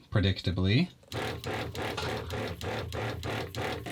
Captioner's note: whirring